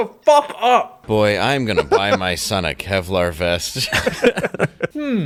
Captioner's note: everyone laughs